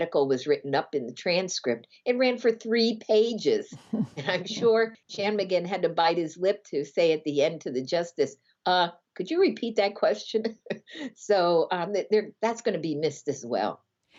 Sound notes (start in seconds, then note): 3.4 laughter